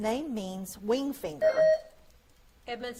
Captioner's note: buzzer beeps